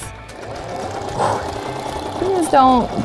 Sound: sewing machine whirring

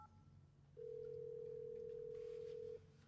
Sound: dial tone ringing

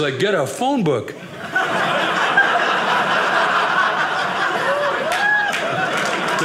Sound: audience laughing

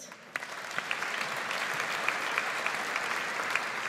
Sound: audience applauds

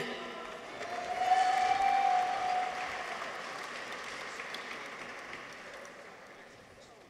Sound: people cheer; audience applauds

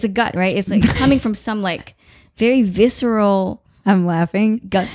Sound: laughing

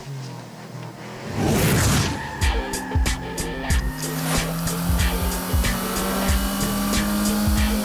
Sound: engines revving; tires squealing

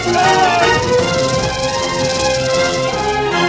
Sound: rattling; rattling, screaming

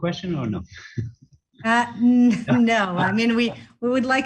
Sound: laugh

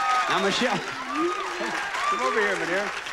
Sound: audience cheering

